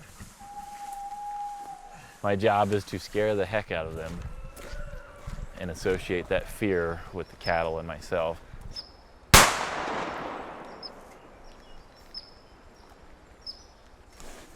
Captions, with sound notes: My job is to scare the heck out of them and associate that fear with the cattle and myself. (gun shot)